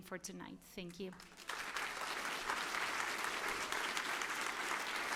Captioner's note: applause